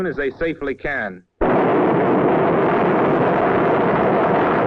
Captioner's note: planes whirring